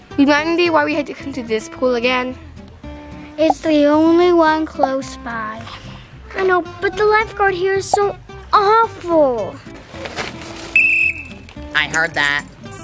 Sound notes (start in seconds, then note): 9.7 tree rustling; 10.7 whistle blows